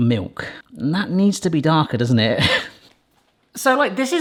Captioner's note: laughs